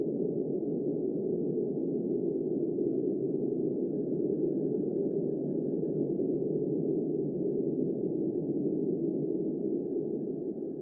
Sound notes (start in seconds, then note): 0.1 cold wind sound